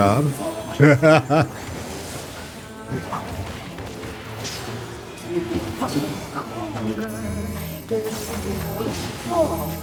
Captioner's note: laughter